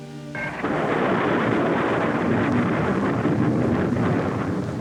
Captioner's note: rocket rumbling